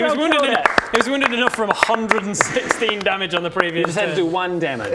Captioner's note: well deserved applause